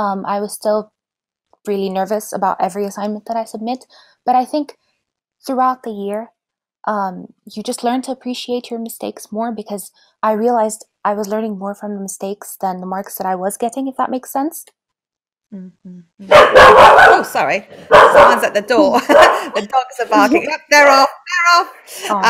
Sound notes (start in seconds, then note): 16.3 dogs barking